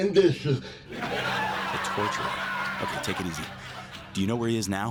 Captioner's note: laugh track